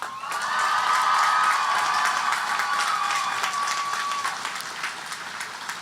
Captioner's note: audience cheering and applauding